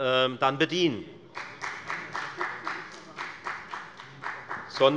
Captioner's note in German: Beifall bei der FDP